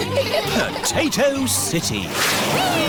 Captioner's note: all giggling